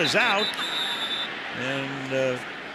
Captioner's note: whistle blows